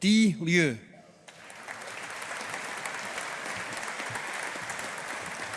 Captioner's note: audience applauding